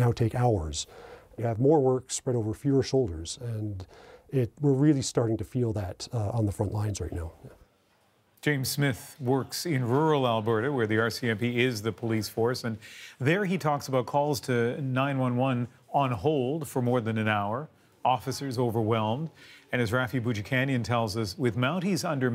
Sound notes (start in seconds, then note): none